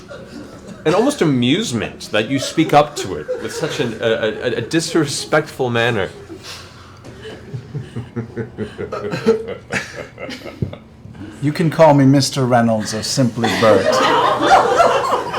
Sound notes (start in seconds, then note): 7.1 evil laughter